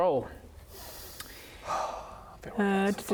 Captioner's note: contented sigh